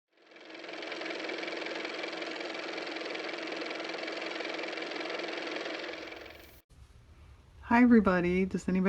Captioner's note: car motor